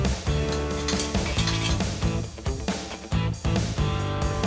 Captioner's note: metal clanks